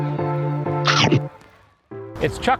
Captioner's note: upbeat music; chomping